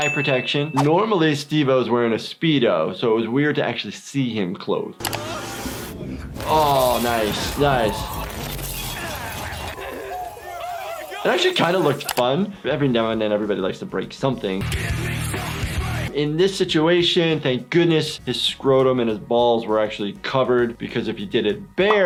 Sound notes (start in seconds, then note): 7.6 glass breaking; 9.0 Steve-O grunting; 9.0 people screaming